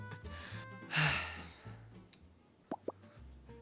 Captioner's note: deep sigh